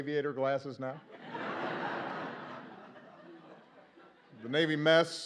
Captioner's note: laughter